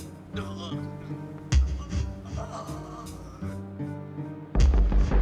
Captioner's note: guard groaning